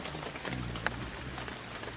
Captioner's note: birds chirping; rainfall